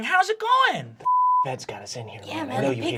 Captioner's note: beep